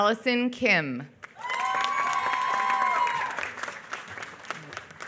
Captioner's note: applause